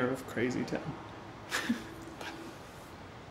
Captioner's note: laughs